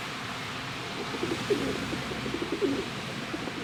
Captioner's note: pidgeons cooing